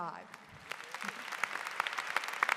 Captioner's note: applause